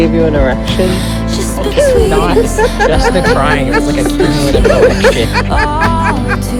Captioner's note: Nicholas laughs